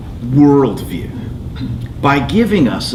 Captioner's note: none